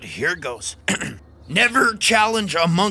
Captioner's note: throat clearing